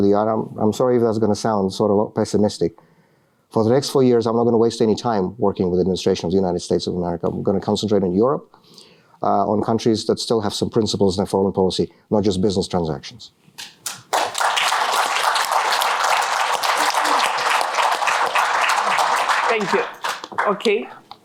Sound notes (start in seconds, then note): 13.6 applause